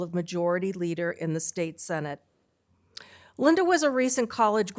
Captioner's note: none